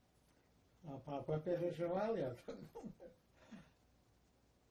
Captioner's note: laughing